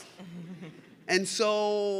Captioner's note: audience laughs